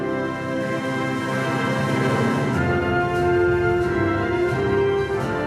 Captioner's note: none